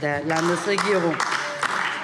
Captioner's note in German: Beifall DIE LINKE